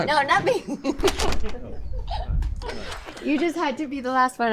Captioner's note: laughs; door clacks